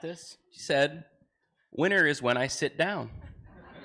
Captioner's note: laughter